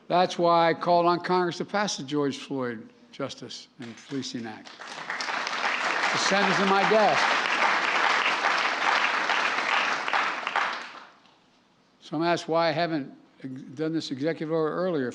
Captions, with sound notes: That's why I called on Congress to pass the George Floyd Justice in Policing Act -- (applause) -- to send it to my desk. Some asked why I haven't done this executive order earlier.